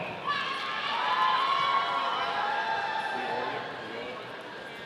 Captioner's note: audience cheering